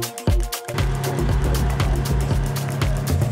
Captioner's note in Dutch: motor geronk